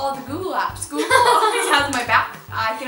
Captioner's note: laughter